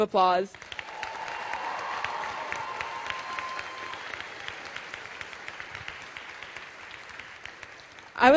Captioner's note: applause